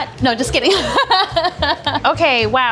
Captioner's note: laughing